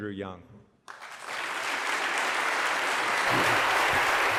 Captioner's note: applause